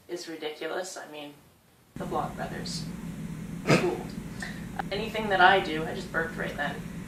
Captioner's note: laughs